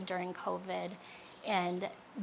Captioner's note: birds chirping